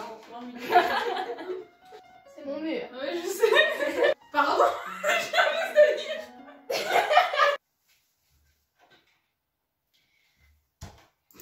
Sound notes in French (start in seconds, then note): 0.6 Rire; 3.3 Rires; 4.5 Rire